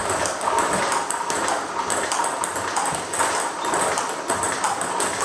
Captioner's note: ball ping pong hitting continues